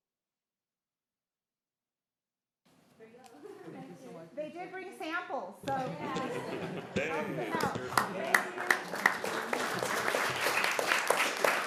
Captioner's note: applause